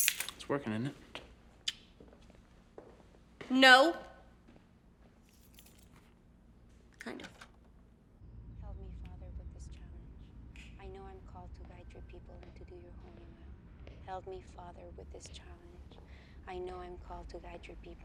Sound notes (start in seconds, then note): 5.3 keys jangling; 7.1 door clicks open